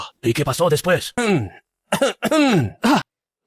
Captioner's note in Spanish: Cof, cof, cof